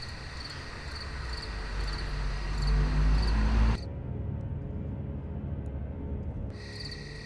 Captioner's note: car rumbling; gentle orchestral music